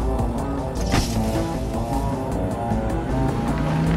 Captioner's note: engine revving